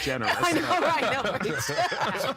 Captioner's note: laughing